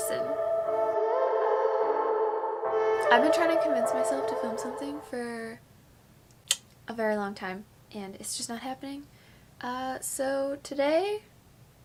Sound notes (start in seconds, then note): 0.0 mellow music; 6.2 tongue click